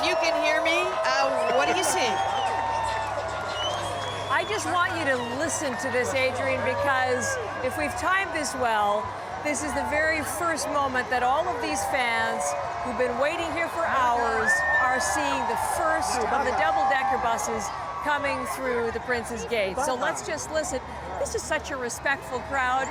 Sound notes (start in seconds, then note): 3.3 cheering; 7.0 cheering